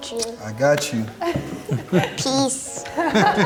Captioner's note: laughs